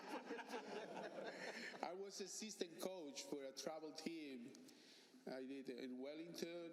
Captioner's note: laughter